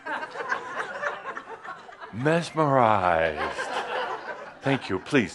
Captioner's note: more laughter